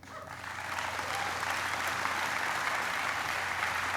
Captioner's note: applauding